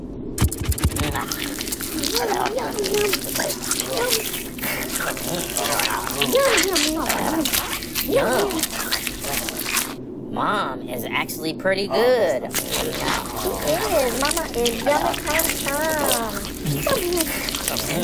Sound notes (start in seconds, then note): 1.6 scorpions chomp